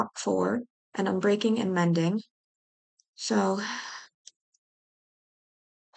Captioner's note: exhales